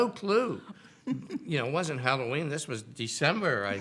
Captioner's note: giggling